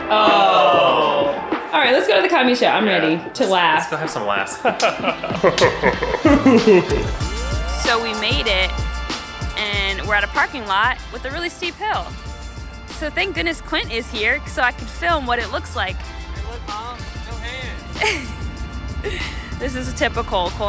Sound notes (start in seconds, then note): 0.2 upbeat music playing; 5.5 with deep voice filter; 18.0 giggles